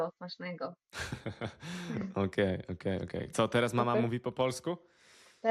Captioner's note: laughter